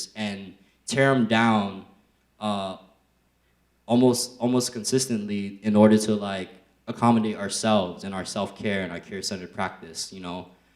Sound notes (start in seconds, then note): none